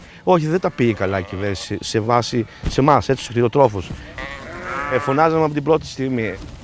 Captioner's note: speaking in foreign language